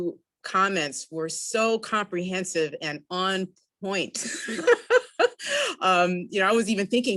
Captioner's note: laughs